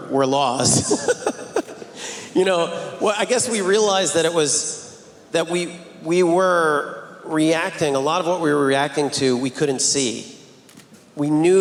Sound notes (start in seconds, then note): 0.6 laughing